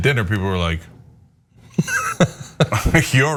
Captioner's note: laugh